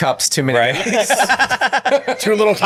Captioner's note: all laughing